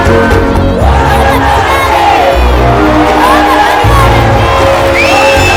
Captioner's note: cheering